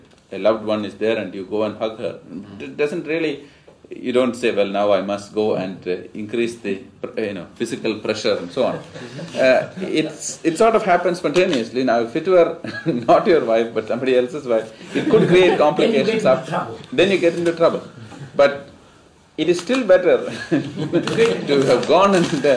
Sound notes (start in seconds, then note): 16.4 laughter; 20.3 laughs